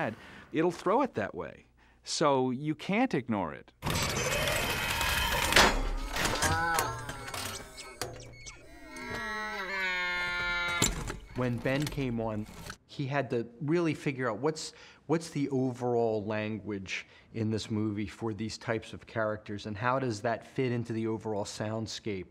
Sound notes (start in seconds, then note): 5.4 clanks; 6.1 muttering; 8.6 moaning